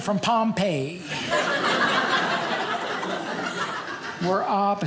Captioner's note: audience laughing